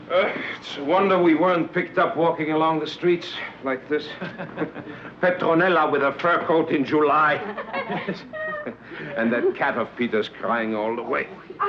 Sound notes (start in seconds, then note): 4.1 chuckles; 7.3 women laughing